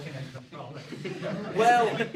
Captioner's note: laughter